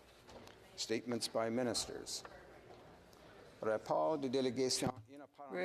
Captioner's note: speaking French